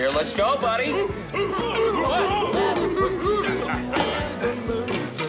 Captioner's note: people chanting